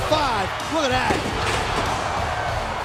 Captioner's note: fans roaring